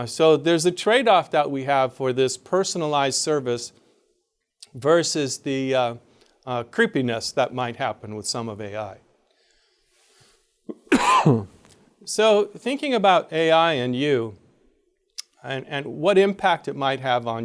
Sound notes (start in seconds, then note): 10.7 coughs